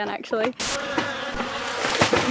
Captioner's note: flies buzzing; splash